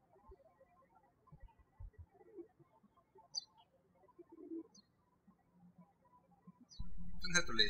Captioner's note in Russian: птички щебечут